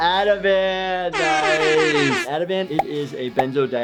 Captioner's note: horn blaring